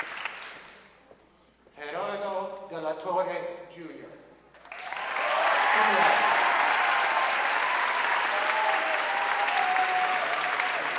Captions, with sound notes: Gerardo De La Torre Jr., cum laude. (audience cheering and applauding)